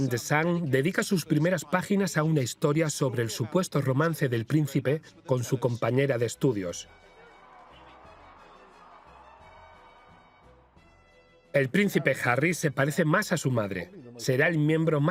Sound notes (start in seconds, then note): 6.7 crowd cheering